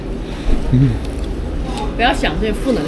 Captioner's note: shivering